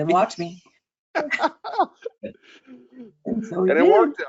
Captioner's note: chuckling